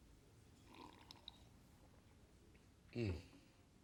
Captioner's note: Coleman slurps